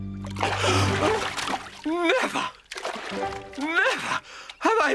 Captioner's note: gasping